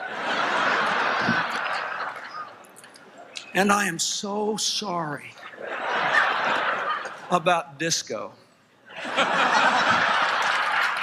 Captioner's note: laughter; applause, Laughter